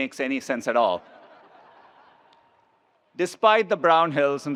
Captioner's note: attendees laughs